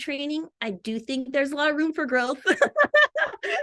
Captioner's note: laughs